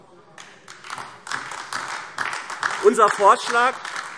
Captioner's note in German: Beifall AfD